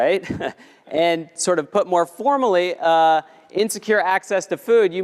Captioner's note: laugh